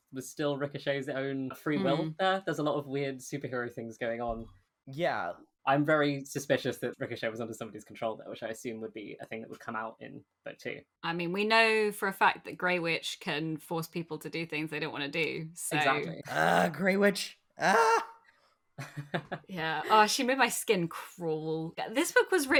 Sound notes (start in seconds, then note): 17.6 laughs; 17.6 screams